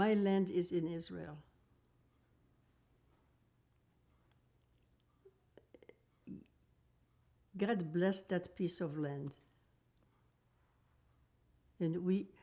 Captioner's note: pauses 6 seconds